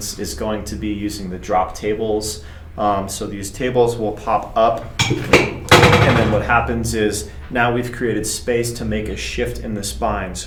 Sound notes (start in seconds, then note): 4.8 table clanking